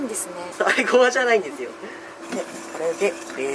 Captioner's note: laughter